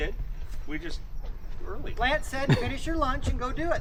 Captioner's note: laughing